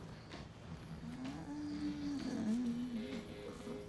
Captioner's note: moaning, snoring